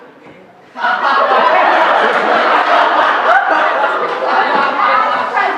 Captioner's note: laughter